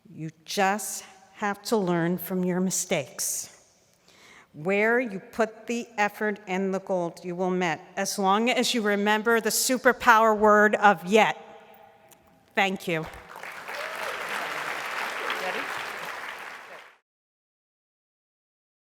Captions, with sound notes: You just have to learn from your mistakes. Where you put the effort and the gold you will met as long as you remember the super power word of yet. Thank you. (audience applauding)